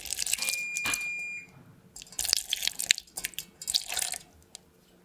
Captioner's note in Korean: 삐- 오븐이 예열되었다는 소리에요